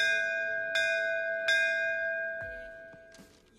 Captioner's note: temple bell rings